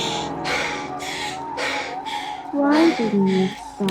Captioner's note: Ally panting